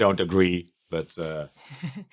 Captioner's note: laughs